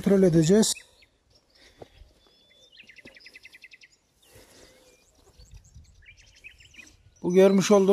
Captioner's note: bird sounds